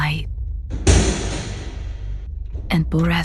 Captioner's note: door. Footsteps on Metal